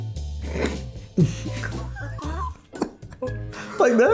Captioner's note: both laughing